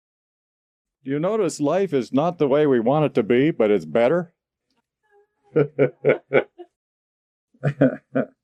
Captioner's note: laughs